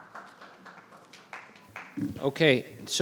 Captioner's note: group clapping